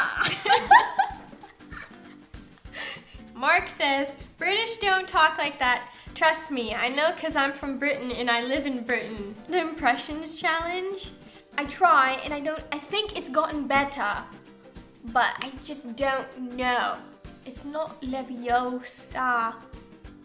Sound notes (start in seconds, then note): 0.0 laughing; 11.2 in British accent; 17.6 in British accent